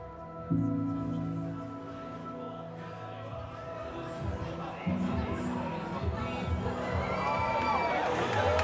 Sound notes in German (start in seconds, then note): 0.0 Leise Stimmen, Musik im Hintergrund; 6.7 Jubelrufe, Applaus